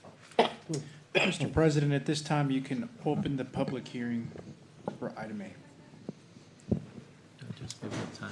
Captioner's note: clears throat